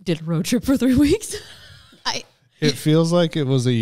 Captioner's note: laughs